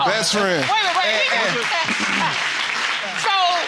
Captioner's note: audience applauds